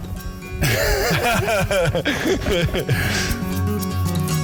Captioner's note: laughter